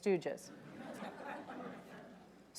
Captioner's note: audience laughing